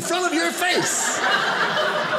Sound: audience laughing

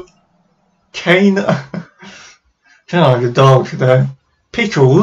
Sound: snickers

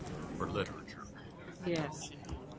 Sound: voiceover

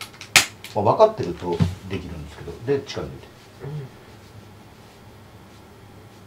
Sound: laughs

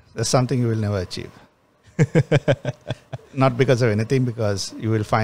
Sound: laughs

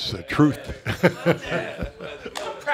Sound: laughs

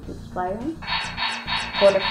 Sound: laser shots continue

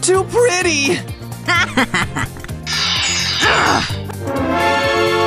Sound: screams

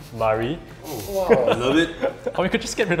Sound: players vocalizing

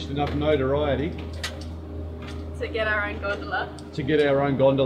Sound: camera equipment clanks

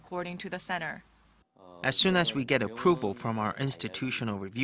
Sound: Korean

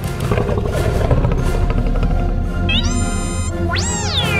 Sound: growl

